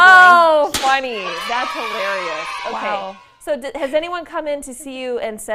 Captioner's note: laughter